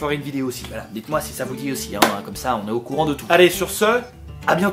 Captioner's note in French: clap